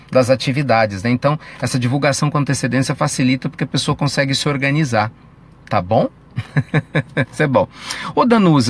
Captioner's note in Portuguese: risos